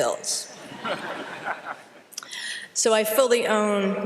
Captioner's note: laughter